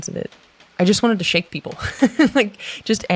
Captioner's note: laughs